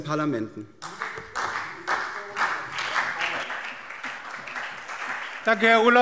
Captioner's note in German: Beifall